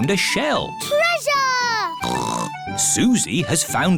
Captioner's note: snorts